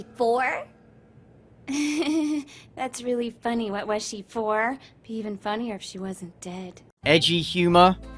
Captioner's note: laughs nervously